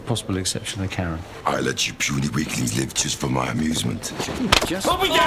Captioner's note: deep voice